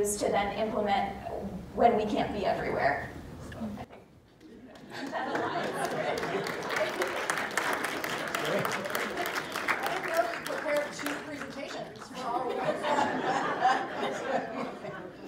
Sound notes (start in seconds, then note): 5.2 laughter & applause